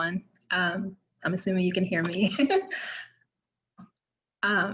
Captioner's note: laughs